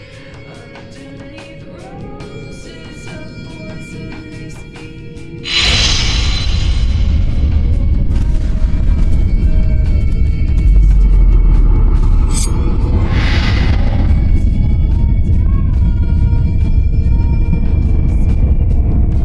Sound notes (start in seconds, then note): 5.7 suspenseful music; 12.2 blade swishes